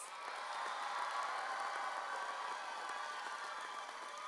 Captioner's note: audience cheering